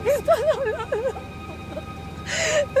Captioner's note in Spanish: Sollozos